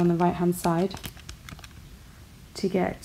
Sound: typing on calculator

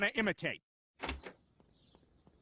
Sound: shed door closed

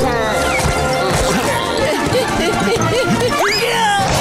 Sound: panting; grunting

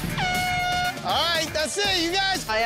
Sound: air horn blowing

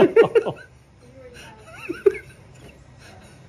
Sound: laughter

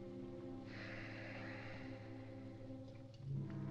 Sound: sighs; somber music

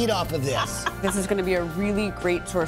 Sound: laughs

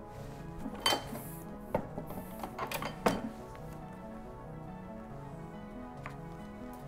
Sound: rhythmic instrumental music; ink press clanks

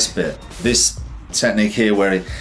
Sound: air whooshes

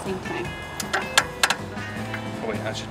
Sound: wheelchair clicking

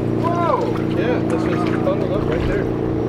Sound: male Voice

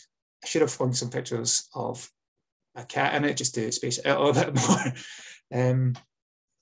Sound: laughs

